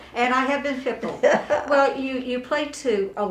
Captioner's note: laughing